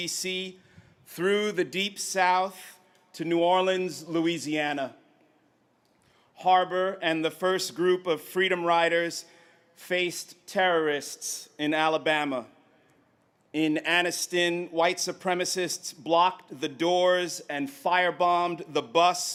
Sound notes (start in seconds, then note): none